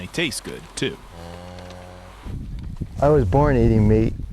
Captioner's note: cattle moos